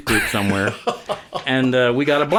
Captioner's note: laughing